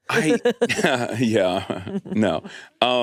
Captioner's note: laughs; chuckles